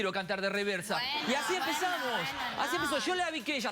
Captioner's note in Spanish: risas